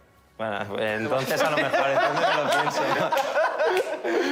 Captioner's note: laughter